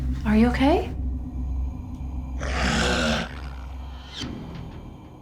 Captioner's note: boy growls